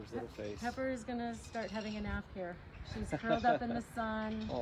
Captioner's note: laughing